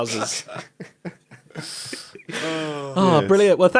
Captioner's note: laughing